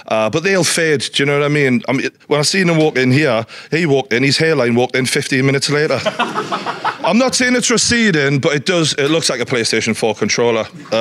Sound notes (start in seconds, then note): 5.8 audience laughing